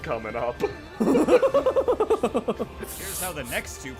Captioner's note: scared laugh